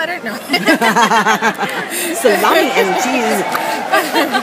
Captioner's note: laughter